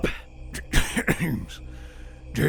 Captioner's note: coughs